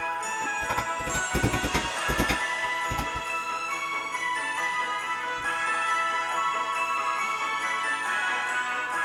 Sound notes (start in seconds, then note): 0.4 hammer banging gently; 5.3 christmas music playing